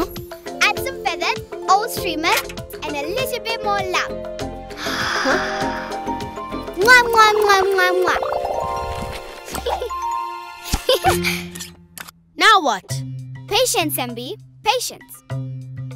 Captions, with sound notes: - Add some feathers, old streamers, and a little bit more love. (blowing kisses) (chuckling) - Now what? - Patience, MB. Patience.